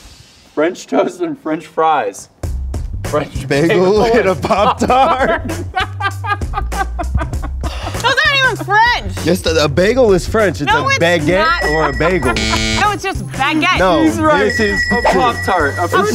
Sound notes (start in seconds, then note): 3.6 laughing; 11.4 buzzer ringing